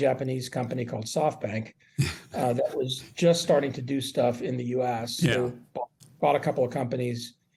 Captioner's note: laughter